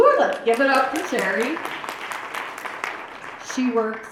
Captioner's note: applause